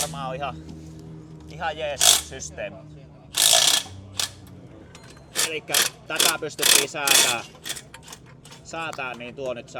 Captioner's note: clunk